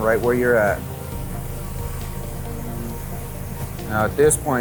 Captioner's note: lift engine humming